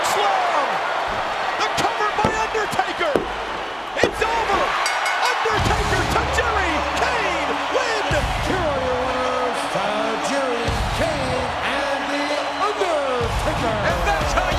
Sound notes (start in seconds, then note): 4.7 bell dinging